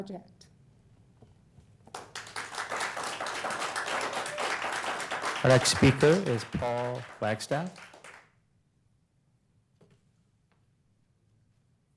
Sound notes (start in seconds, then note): 6.3 applause